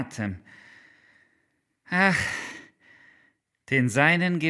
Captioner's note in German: geseufzt